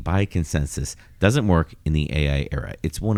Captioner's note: uh